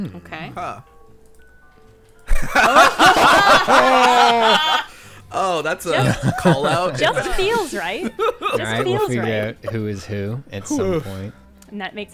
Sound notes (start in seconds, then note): 2.3 everyone laughs